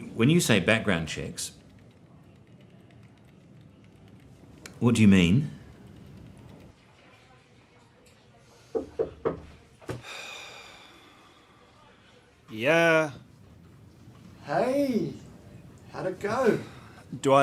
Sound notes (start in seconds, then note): 8.8 knocking; 10.2 Ron sighs